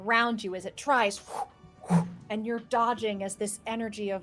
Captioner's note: mimics whooshing